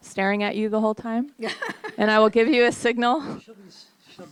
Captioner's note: laughs